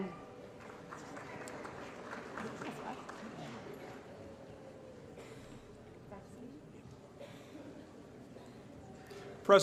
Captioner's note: applause